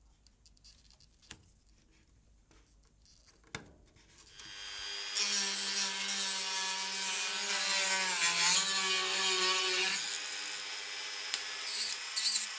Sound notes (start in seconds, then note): 4.2 dremel whirring